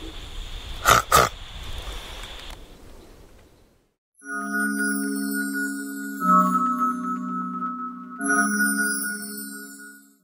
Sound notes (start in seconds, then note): 0.8 pig frog call; 4.2 fairy dust sound effect